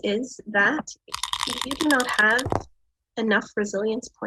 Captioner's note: die rattles and clatters